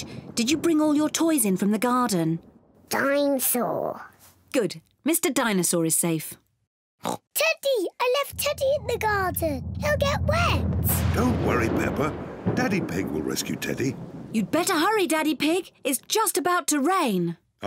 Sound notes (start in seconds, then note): 7.0 oinks